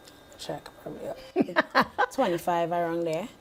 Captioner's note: laughing